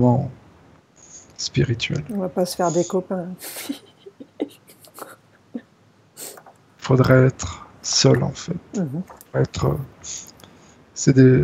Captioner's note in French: rires